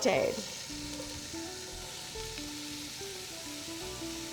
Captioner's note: onions sizzle lightly; gentle music